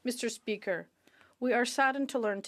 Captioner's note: speaking French